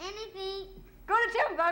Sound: whispering; continues singing

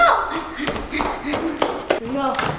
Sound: running footsteps; panting

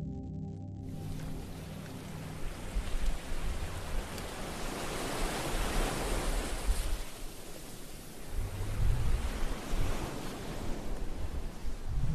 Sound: sounds of waves crashing

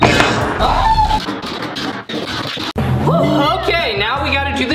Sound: yells

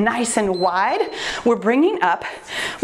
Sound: timer beeps

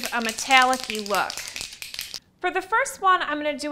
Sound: can rattling

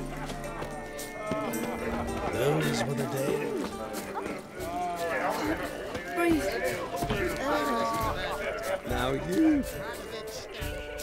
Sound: indistinct chatter

